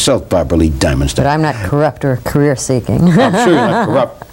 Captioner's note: laughs